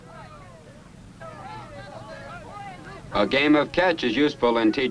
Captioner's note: speaking faintly